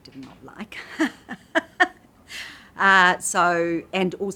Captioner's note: laughs